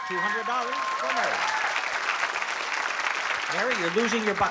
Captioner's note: applause and cheering